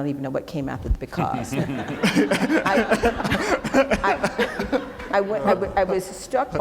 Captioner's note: laughing